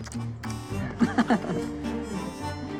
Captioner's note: chuckles